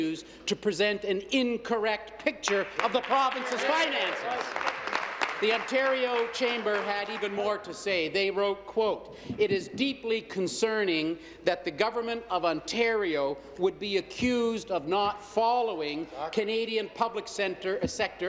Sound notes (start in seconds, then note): 7.4 applause